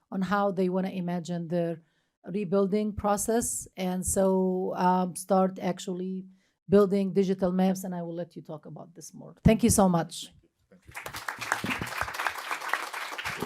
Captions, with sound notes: on how they want to imagine their rebuilding process. And so start actually building digital maps. And I will let you talk about this more. Thank you so much. [APPLAUSE]